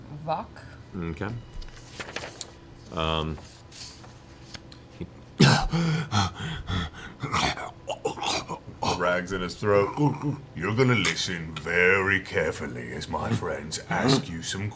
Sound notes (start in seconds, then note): 5.4 gasps, chokes